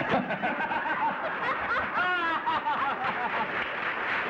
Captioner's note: laughter